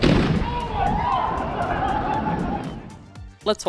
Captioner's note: loud CRACK AND FWWOOOOOSH; screaming and laughter